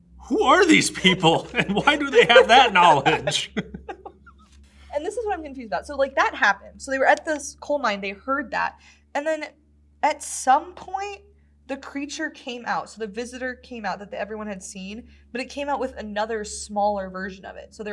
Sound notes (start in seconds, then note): 3.3 laughs